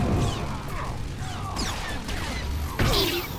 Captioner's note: gunfire